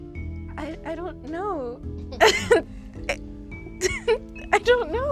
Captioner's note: laughs